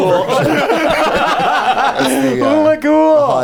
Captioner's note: laughter